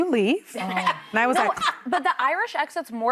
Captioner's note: laughing